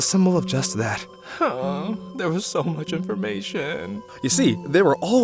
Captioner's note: whimper